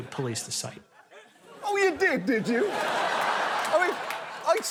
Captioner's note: laughter